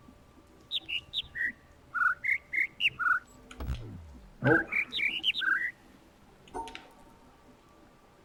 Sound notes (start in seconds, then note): 0.6 overlapping birds chirping, ˥ ˧ ˥ ˩